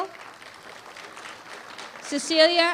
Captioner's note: applause